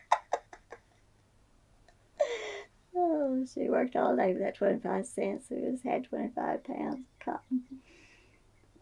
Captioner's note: laughs